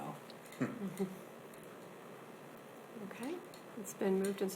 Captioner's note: chuckles